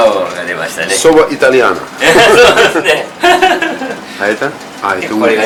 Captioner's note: laughter